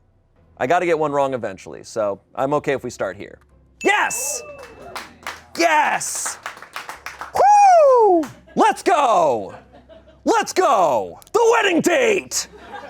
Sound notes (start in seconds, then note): 3.8 audience applauding; 3.8 audience cheering